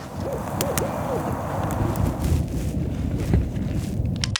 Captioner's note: ax thudding; bird calling